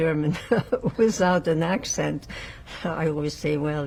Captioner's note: laughing